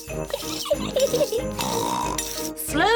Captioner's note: giggles and snorts